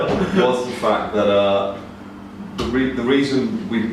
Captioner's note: laughter